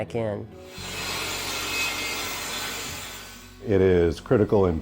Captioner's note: sound of a table saw cutting a board